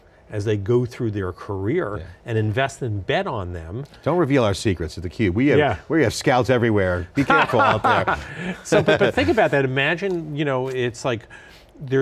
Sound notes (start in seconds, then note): 7.2 laughs